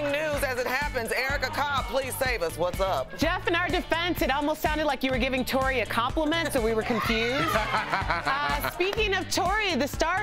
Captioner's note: laughter